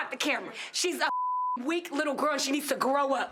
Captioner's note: beep